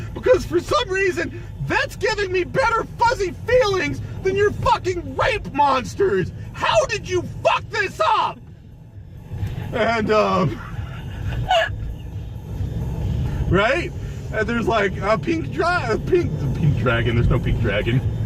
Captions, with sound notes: "Because, for some reason, that's giving me better fuzzy feelings than your fucking RAPE MONSTERS! "How did you FUCK this UP?!?!" [forcibly returns to normal speech] And, um, [camerawoman laughing] Right? And there's like a pink dra-- a pink dragon. There's no pink dragon.